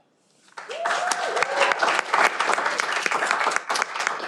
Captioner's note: cheering